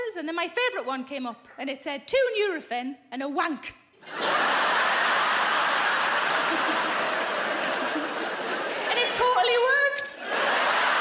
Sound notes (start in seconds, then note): 5.8 laughing; 10.8 laughing